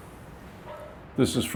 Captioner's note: breeze blowing; dog barking